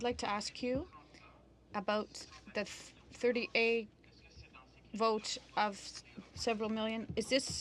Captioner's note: speaking french